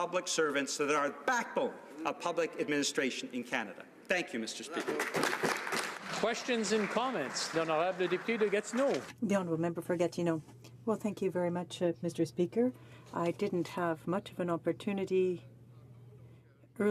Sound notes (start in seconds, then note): 8.2 applause